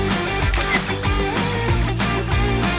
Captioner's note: camera shutter clicks